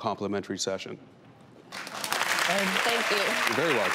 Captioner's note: clapping hands